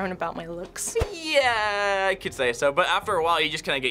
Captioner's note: skeptically